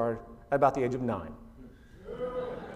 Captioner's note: oohs